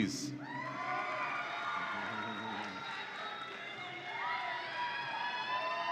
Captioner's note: audience applauds and cheers